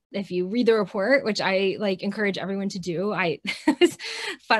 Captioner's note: chuckles